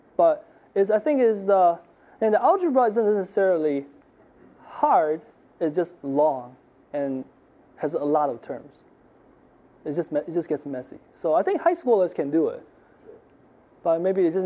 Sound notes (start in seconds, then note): none